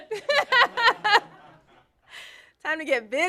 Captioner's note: laughter